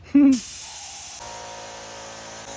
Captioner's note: pshhhh; psshhhhhhh